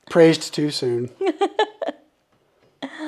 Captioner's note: laughing